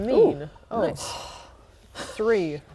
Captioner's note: sigh